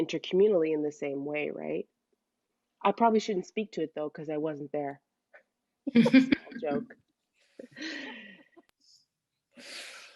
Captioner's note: laughter